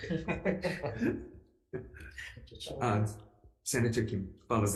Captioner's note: crowd laughs